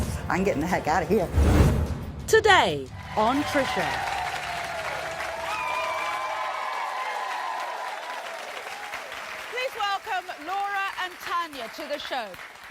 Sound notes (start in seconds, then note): 2.9 audience cheering